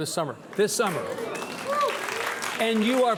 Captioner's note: audience applauding